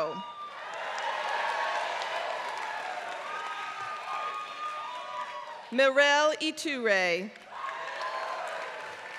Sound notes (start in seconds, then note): 0.0 applause